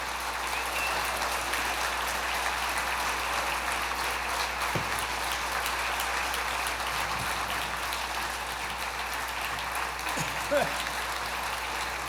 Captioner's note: applause